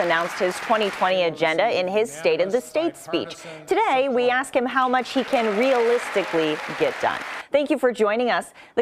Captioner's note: applause